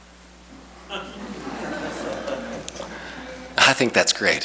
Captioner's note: audience laughs